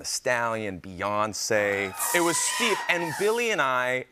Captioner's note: cheers